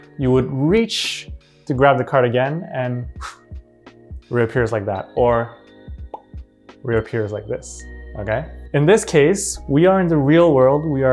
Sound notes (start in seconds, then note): 3.1 vocalizing whooshing; 6.0 vocalizing popping